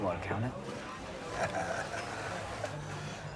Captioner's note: Jack laughs